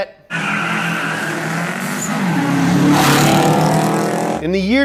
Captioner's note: engines revving; beeping